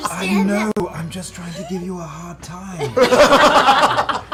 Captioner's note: whispers; all laugh